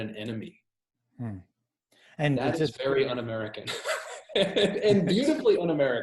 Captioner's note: laughs